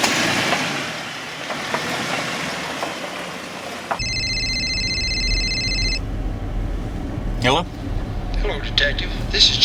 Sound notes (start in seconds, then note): 1.7 gravel crunching; 4.0 phone rings